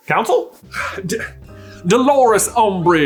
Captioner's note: frustrated stammer